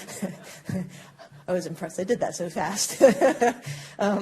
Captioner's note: laughter